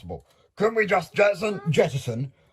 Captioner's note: Siobhán Teddy sounds nervous